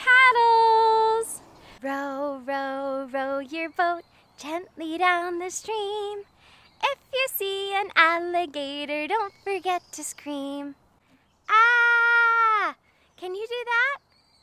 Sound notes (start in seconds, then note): 2.1 singing; 11.5 screaming